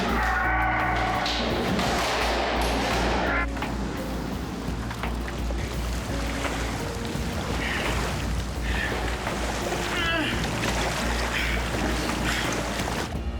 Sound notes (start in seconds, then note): 0.0 metal sound, Jan moaning; 10.0 water - Jan breathing